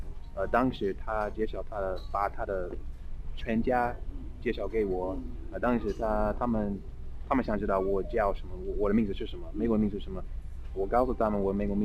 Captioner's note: mandarin